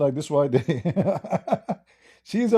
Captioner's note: Ketawa